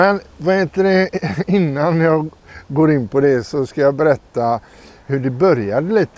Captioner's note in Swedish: harklar sig